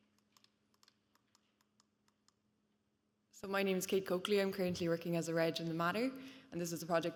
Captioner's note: keyboard clicking